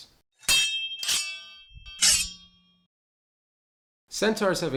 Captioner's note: blades clashing